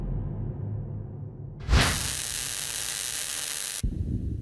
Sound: static buzzes

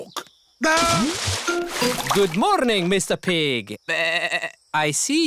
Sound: bleats

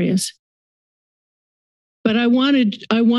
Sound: silence

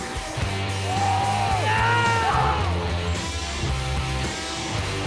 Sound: shouting and cheering

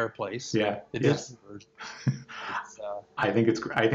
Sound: murmurs

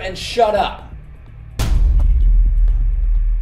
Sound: bang

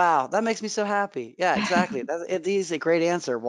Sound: chuckling

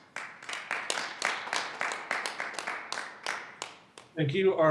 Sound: audience clapping

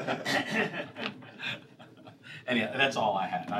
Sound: laughter

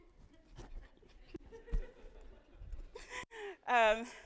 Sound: audience laughing

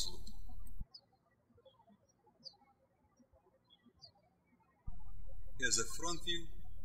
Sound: birds chirping

